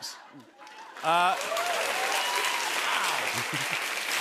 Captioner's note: cheers and applause